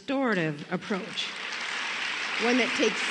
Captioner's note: applause